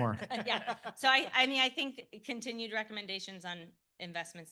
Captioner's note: laughter